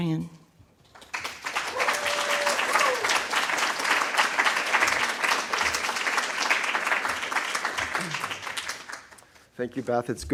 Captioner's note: applause